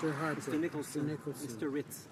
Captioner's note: speaking French